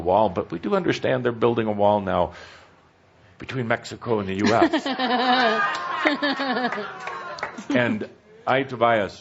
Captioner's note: laughter